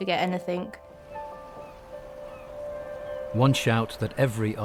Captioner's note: light piano music; seagulls crying